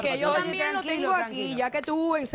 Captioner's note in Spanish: Hablan al unísono